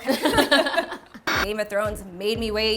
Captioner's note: laughter